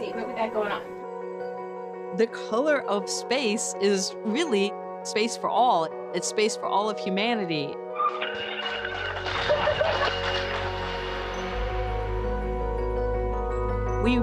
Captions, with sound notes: Let's see what we got going on. “The Color of Space” is really e for all. It's space for all of humanity. [cheering] [inspirational music]